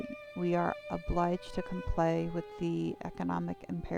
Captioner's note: none